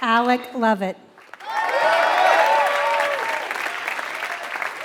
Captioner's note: applause